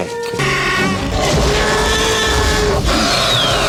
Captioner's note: dinosaur roars